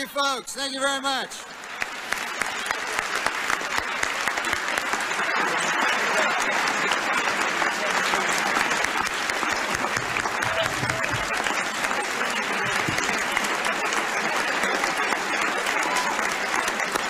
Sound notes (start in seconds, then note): 1.3 applause